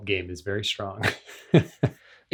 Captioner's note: laughs